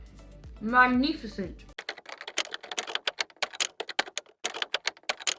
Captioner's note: typing noises